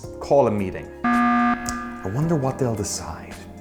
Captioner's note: button beeps